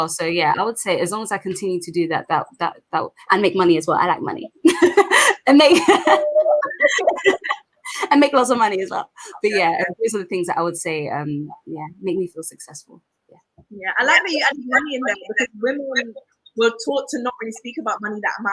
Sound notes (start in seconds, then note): 4.6 laughs